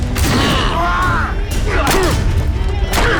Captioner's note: yells